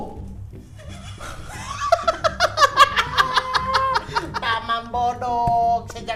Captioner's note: laughing cynically